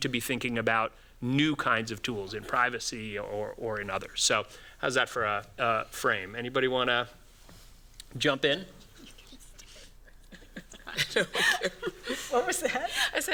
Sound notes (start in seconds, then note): 8.8 laughs